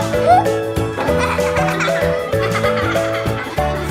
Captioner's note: students laugh